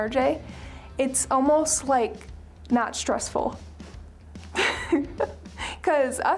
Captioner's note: laughing